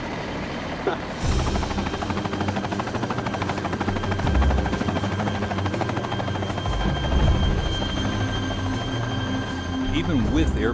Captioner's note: sound of helicopter rotors; voiceover